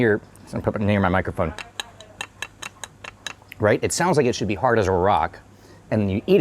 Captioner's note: tapping sound